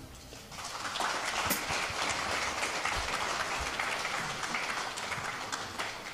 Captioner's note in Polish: oklaski